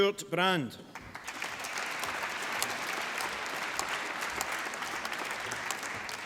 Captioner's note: applause